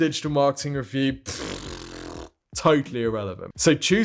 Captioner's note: blows raspberry